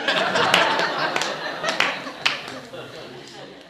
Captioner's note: laughing